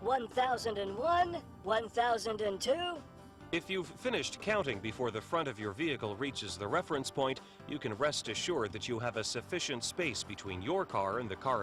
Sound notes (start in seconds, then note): 3.7 voiceover